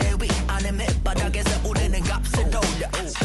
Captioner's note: none